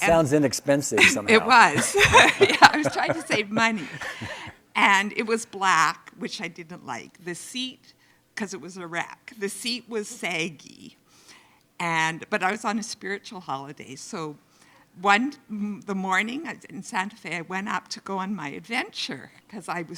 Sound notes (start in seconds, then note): 0.9 laughing; 1.0 chuckles